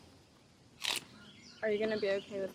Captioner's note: celery crunches